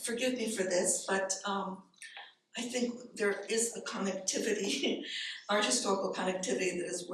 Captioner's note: chuckles